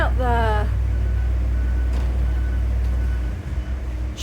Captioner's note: truck reversing beep